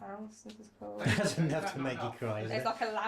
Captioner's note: laughing